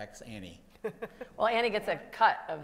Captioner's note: laughs